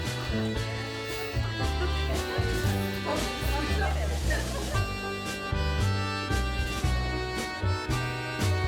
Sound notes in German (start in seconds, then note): 3.0 gemütliche Musik; 3.0 undeutliches Gerede